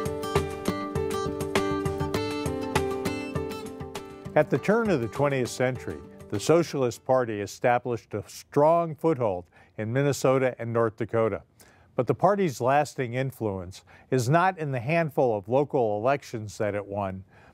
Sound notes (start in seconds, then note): 0.0 thoughtful music; 4.3 voiceover